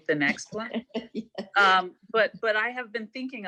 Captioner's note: laughing